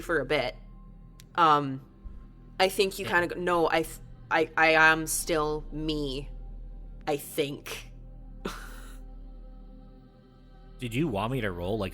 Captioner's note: chuckles